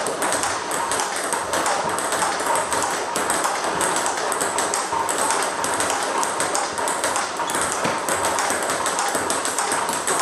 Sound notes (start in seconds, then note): 4.6 ball ping pong hitting continues